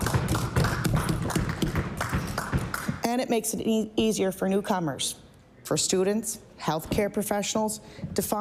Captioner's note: applause